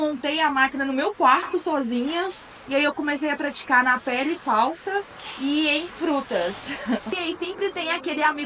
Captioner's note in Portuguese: risos